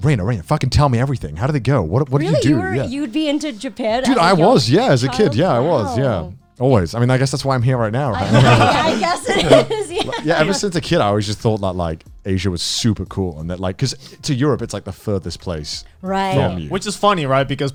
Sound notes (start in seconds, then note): 8.1 all laughing